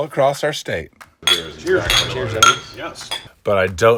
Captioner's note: glasses clinking